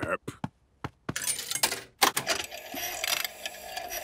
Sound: clicks, whirring

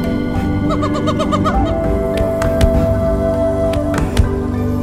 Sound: gorilla squeaking

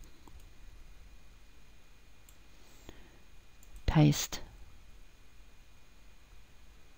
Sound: left mouse click

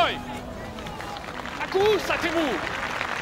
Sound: Themistocles speaking in foreign language; crowd applauding; Themistocles speaking in foreign language

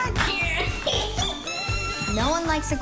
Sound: laughing

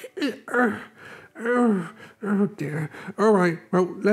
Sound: Growler Groans

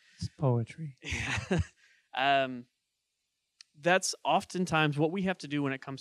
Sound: chuckling

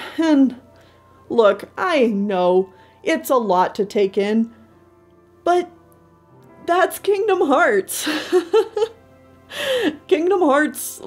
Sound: laughs

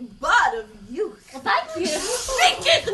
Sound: Old Snatches shushes her

